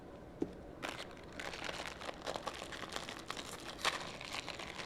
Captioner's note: wrapper rustling